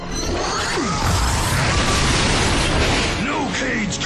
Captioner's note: explosion